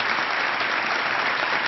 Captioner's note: applause